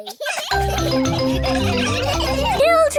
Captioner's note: all laughing